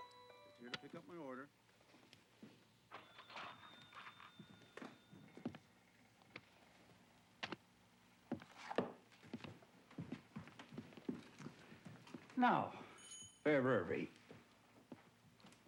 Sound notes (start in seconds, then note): 3.3 register dings